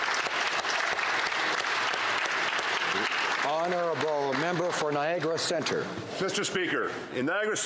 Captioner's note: applause